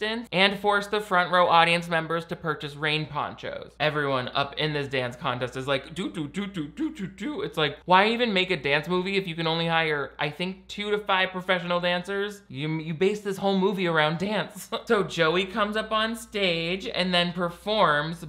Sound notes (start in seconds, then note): none